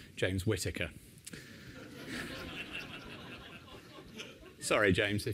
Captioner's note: laughter